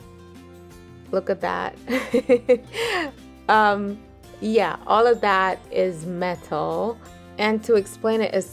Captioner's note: chortles